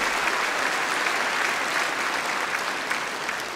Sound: applause

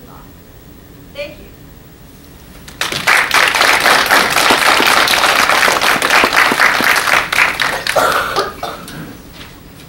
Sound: applause

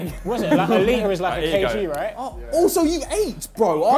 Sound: group clamours

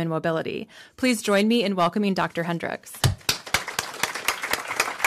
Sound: applause

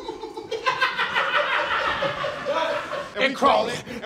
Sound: people off-screen laughing

